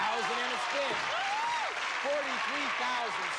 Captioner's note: cheers and applause